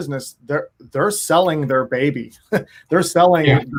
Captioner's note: chuckles